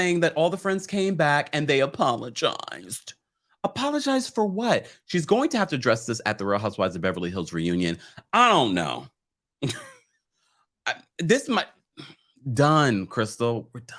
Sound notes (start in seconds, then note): 10.2 laughs